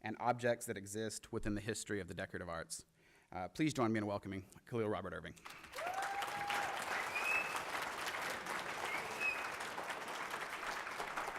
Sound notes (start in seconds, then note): 8.7 applause